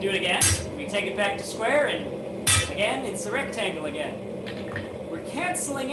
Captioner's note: hammers